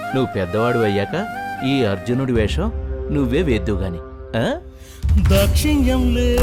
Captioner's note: none